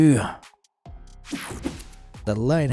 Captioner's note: screen whooshing